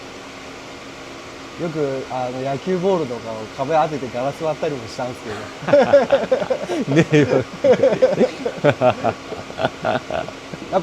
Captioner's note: haha